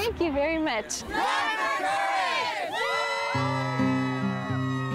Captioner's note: crowd shouting